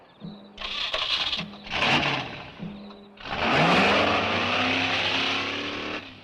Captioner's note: engine rumbles; engine cranks